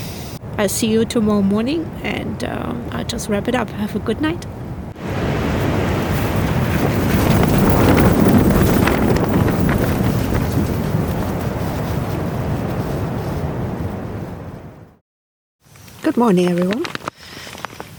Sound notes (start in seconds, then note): 4.9 sound of storm rattling the tent